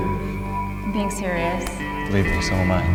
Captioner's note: voice-over